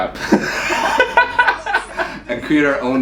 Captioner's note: laughing